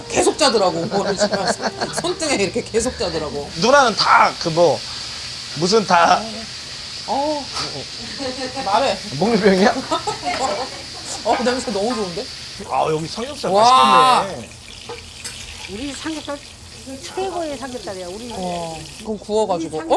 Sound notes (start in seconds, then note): 7.5 sniff